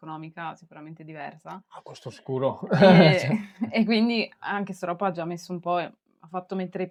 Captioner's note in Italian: risate